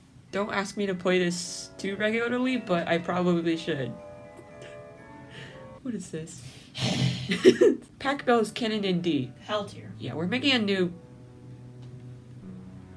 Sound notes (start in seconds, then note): 5.2 inhales; 6.8 laughter; 7.1 sigh